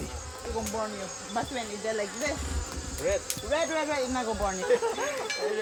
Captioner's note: background chatter